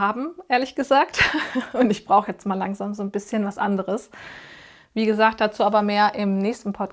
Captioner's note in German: gelächter